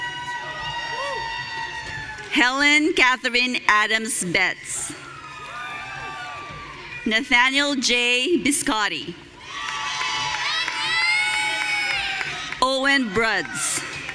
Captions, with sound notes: (audience cheering) Helen Catherine Adams Betts. (audience cheering) Nathaniel J. Biscotti. (audience cheering) Owen Brudz.